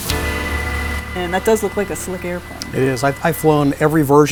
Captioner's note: voiceover